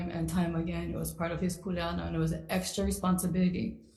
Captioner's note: speaks foreign language